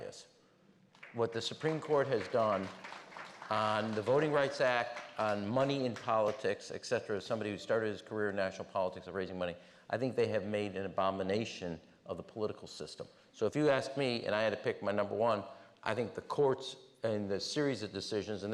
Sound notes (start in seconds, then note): 6.0 applause